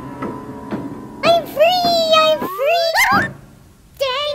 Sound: bird; bird

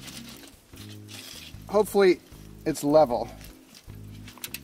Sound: foil crackles

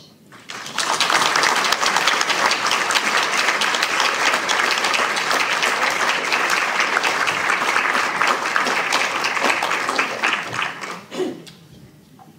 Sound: applause

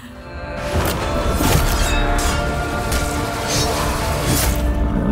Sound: sword clanging and slashing

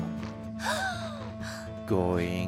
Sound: נשיפות

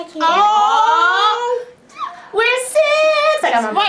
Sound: exclaiming

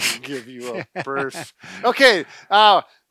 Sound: laughing

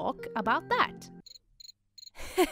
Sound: chirping crickets; forced laughter

